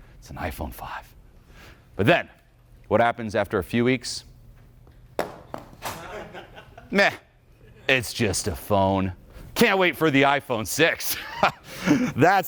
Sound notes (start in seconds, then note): 0.0 exhales; 5.8 audience laughing; 11.6 laughs